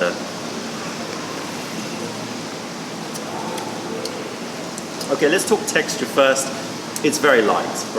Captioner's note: sips tea